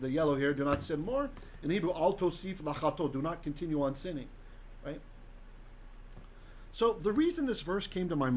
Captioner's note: Hebrew